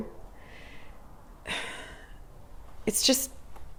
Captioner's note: Leona sighs